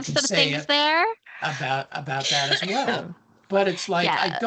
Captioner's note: coughing